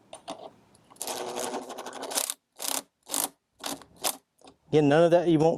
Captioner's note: power tool ratcheting